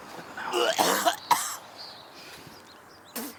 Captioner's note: Billy coughs